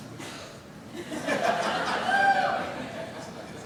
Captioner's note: laughter